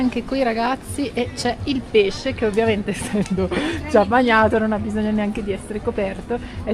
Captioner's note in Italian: risate